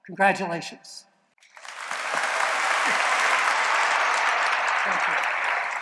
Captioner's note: applause